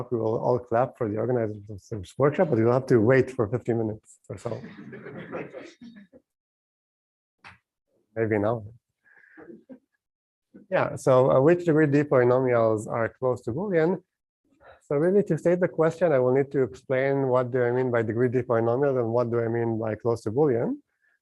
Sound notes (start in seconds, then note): 4.5 laughter